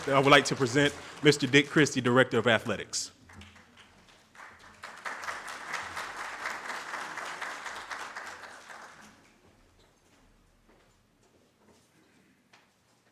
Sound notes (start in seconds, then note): 3.0 audience claps